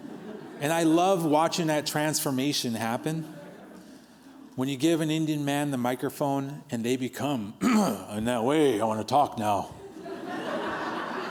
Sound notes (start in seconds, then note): 7.6 clearing throat; 8.2 vocalizing